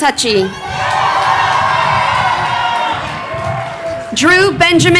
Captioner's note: crowd cheering